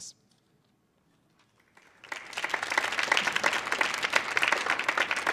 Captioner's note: audience clapping